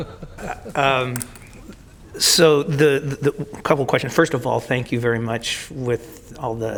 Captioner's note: laughter